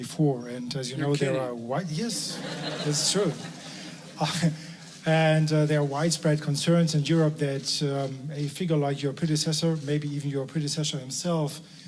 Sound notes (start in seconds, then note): 2.2 laughter